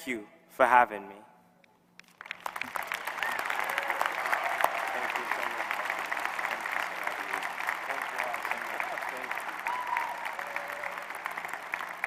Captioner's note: applause